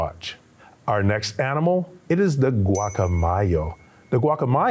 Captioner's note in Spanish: hablando en español